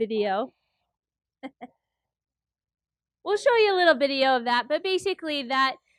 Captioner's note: laugh